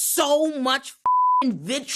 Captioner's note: beep